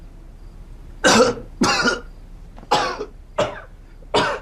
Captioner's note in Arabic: سعال